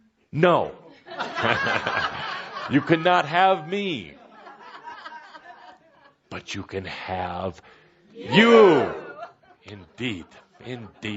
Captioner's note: laughter